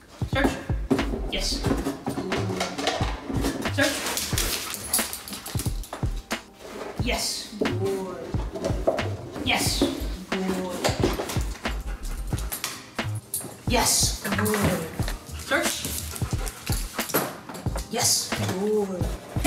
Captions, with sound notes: Search, yes, good. Search. (dog running) Yes, good, good. Yes, good. (dog panting) Yes, good. Search. (dog panting) Yes, good.